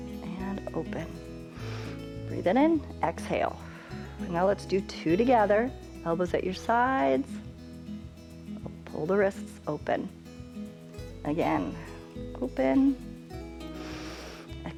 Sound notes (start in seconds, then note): 1.5 inhales; 1.5 exhales; 13.7 inhales